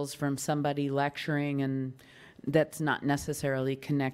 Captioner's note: none